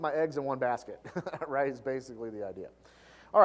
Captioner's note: laugh